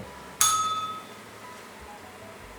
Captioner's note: bell rings